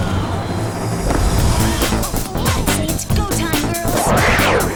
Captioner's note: oohs and ahs